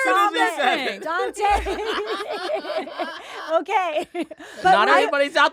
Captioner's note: laughing